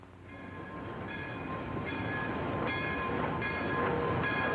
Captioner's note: train bell clanging